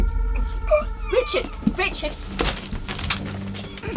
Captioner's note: choking